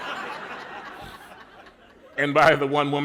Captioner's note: laughter